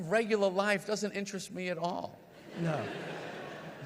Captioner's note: audience laughs